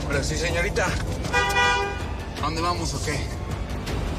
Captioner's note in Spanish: Suena claxon